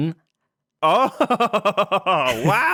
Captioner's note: laughs